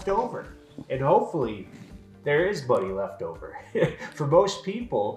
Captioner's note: chuckles